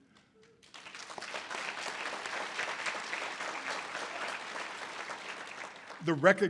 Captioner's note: audience applause